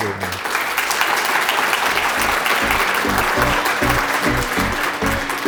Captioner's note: applause